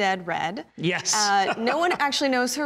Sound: laughing

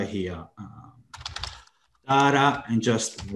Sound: computer keyboard keys tapping

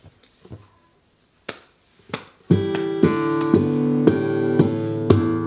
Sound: hands tapping

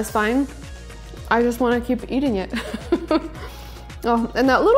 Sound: laughs

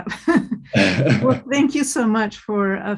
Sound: chuckles

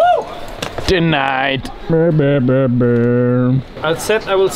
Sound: humming disappointing trumpet sounds

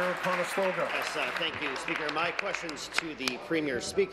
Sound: applause

